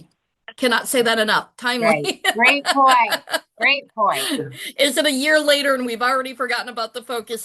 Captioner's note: laughs